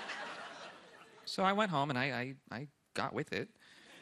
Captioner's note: laughter